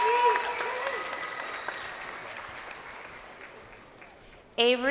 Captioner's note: crowd cheering